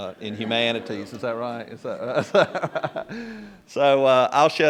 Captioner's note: laughter